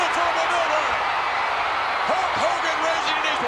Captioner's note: applause